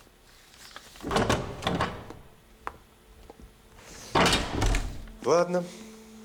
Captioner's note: doors opening and closing